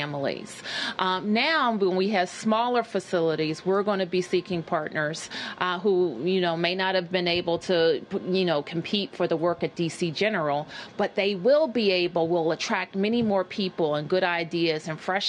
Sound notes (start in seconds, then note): none